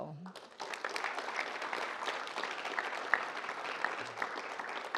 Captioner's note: audience applauds